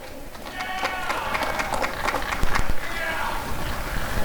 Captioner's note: applause and cheering